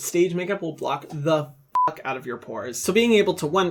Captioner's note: beeping